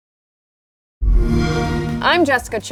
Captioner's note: xbox sound